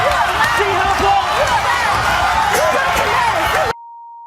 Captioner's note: audience laughing; audience yelling